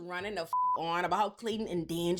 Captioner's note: beep